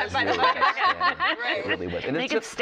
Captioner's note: laughter